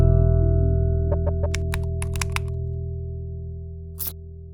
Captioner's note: ident clicks